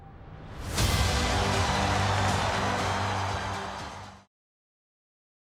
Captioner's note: audience cheering